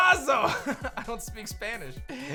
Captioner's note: chuckles